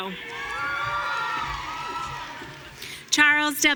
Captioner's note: audience cheering